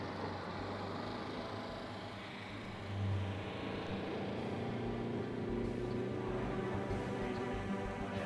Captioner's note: engine noises